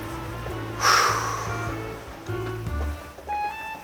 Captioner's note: deep breath